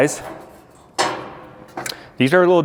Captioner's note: iron grate clangs